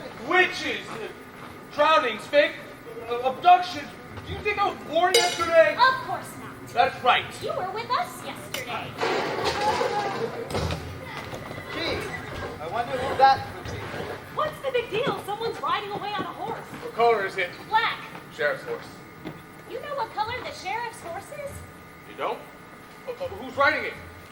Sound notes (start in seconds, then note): 9.0 crashing sounds outside, horse whinnies